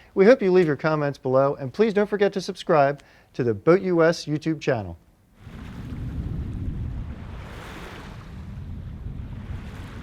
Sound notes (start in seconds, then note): 5.4 wave sounds